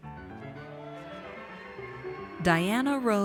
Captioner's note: audience cheers